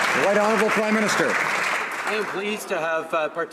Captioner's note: some Applause